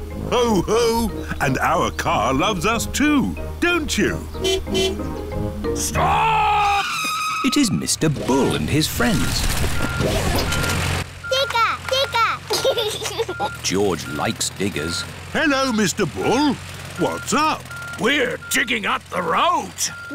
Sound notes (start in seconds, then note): 4.3 car honking; 5.7 tires screeching; 8.8 beeping; 12.4 giggles